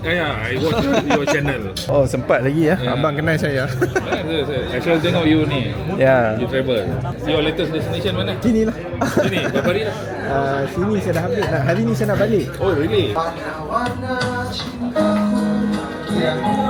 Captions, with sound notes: Saya sering tonton video-video anda. I'm happy that you recognize me. I always watch your travel series. What's your latest destination? Here. [laugh] - How many days here? I'll be flying back to Malaysia today. Oh, begitu.